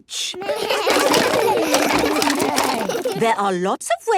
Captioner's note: all laugh